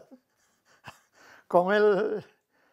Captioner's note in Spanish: ríe